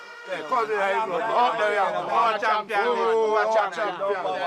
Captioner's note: mixed chattering